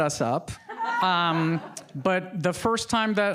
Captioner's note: audience laughing